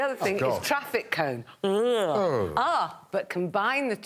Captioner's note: yawns